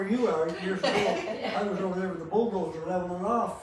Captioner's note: laughs